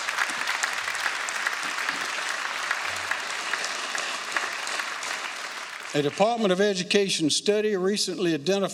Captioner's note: applause